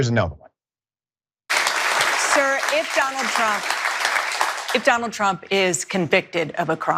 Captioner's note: applause